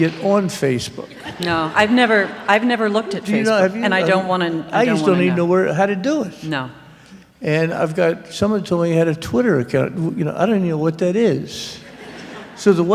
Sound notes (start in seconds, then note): 1.0 laughter